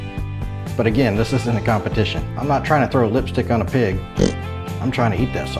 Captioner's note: snort